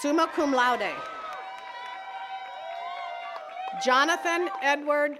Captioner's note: attendees cheering and clapping